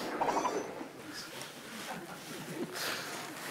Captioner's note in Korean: 뭔가를 보고 웃음 터진 멤버들